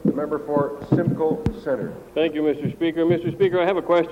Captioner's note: laughter